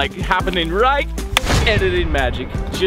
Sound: air whooshes; clap

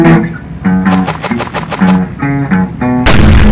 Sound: more Fast Walking; boom

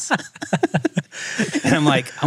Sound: both laughing

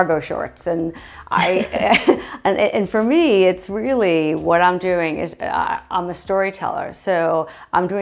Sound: stammering

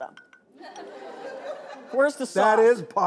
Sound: laughing

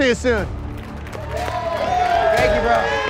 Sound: cheering and applauding

